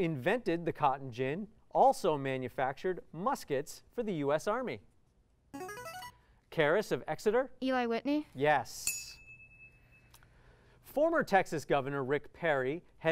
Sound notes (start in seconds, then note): 5.5 musical scale; 8.8 ding